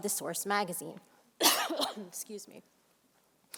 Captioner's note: coughs